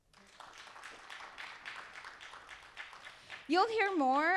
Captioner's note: audience applauding